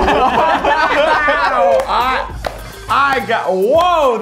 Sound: all gasping and laughing

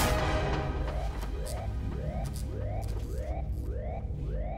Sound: electricity zapping

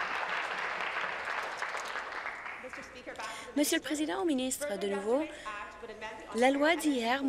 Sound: applause

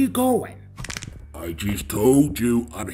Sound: neck Cracks

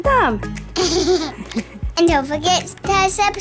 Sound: laughter

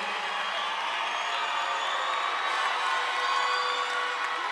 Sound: audience applauding

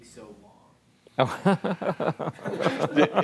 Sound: laughing

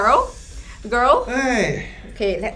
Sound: deep sighs

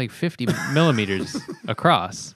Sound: laughter

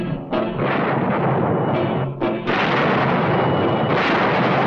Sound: gun firing

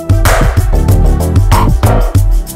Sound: none

